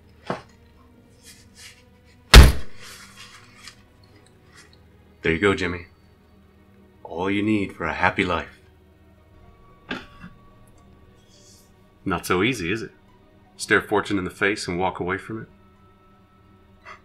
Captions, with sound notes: (bag thudding) There you go, Jimmy, all you need for a happy life. Not so easy is it? Stare a fortune in the face and walk away from it.